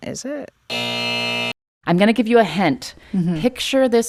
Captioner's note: soundbite of buzzer